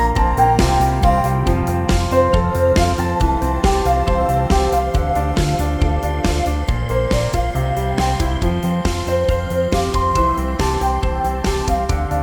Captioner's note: applause